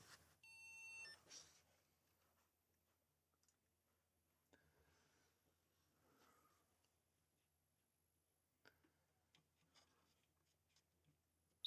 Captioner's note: silence